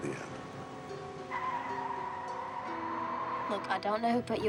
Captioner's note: tires squealing